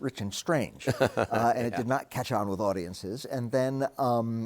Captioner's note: Jerry chuckles